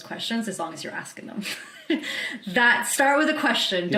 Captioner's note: chuckles